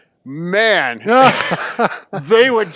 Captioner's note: laughs